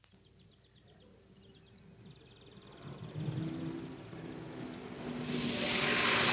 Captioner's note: birds chirping; car engine rumbling